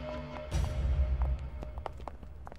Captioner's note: Footsteps